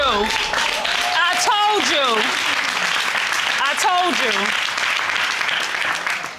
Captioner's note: audience applauding